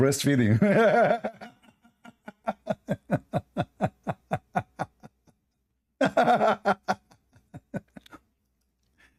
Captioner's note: Ketawa